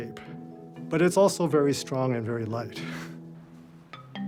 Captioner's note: chuckles